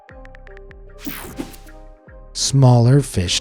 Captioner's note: mellow music; keyboard clicking; graphic whooshes